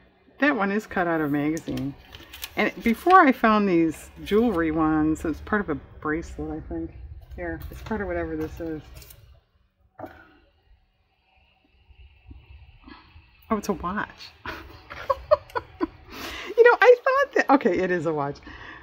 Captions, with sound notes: that one is cut out a magazine, and before i found these jewelry ones-- it's part of a bracelet, i think here, it's part of whatever this is oh it's a watch (laughs) you know i thought that-- okay it is a watch